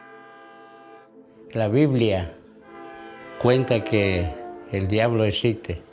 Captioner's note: speaking Spanish